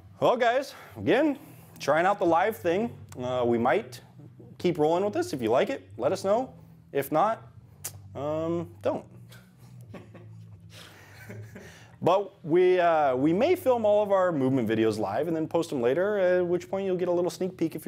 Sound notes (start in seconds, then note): 9.6 chuckling